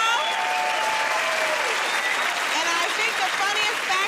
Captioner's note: cheering and applause